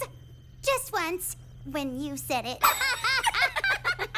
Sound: laughing

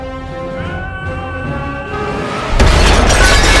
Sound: screaming

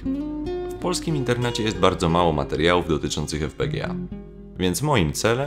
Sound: Polish

